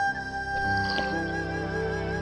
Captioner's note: drinking